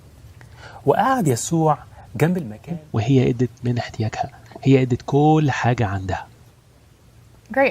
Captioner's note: recording and playing in another language